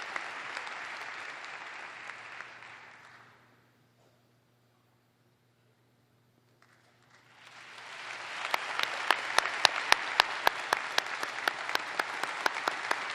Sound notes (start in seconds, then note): 2.4 applause